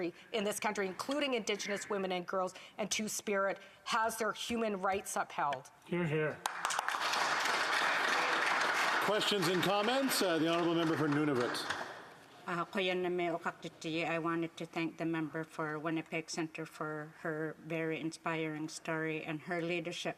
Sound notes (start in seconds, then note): 12.7 applause; 17.6 speaking Indigenous Language